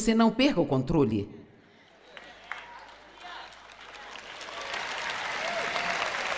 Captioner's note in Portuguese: audiência aplaude